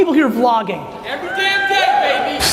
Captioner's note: audience cheers